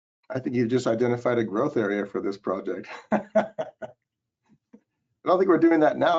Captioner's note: chuckles